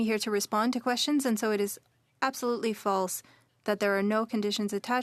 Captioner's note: speaking French